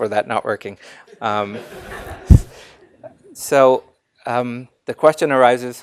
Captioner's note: laugh